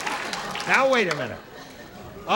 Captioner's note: laughter